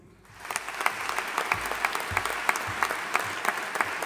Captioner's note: audience applauding